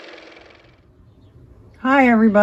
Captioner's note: car motor